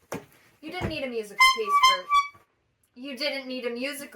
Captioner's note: clown horn honks